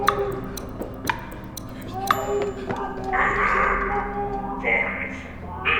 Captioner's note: victim screaming